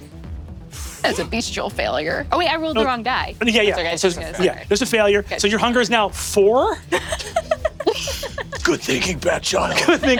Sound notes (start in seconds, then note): 6.7 Siobhan and Emily laughing